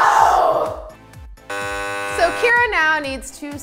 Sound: wrong answer buzzer

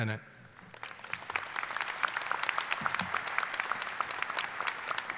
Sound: audience applauding

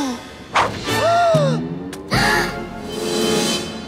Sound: gasping

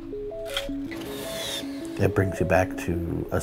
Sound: robotic hand closing

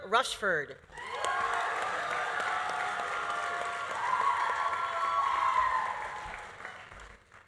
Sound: audience cheering; audience applauding

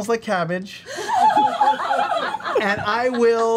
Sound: all laugh

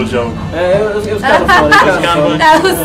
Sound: Janet laughs

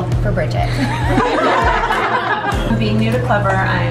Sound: laughing

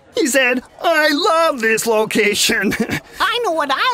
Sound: laughs

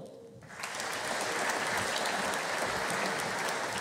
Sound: audience applauding

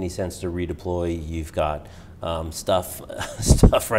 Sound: laughing

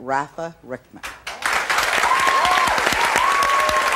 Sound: applause

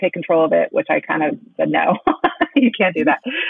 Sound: laughing

